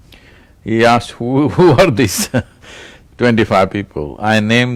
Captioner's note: laughs